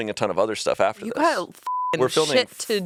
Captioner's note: beep